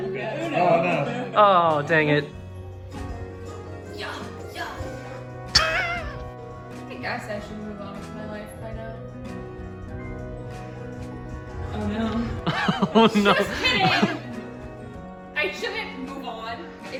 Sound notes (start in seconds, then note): 4.7 making jump noises